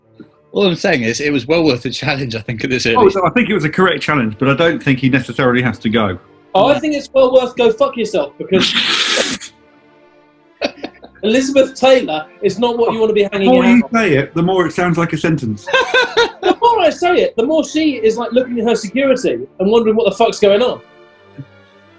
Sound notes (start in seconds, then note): 10.6 sniggers; 16.6 laughing